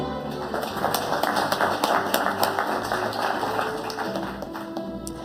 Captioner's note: audience applauding